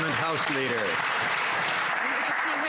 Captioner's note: some Applause